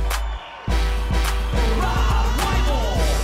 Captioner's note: crowd cheering